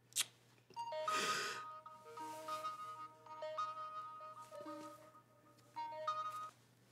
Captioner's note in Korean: 휴대전화벨 소리